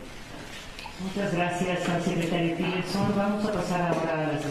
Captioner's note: in Spanish, via interpretation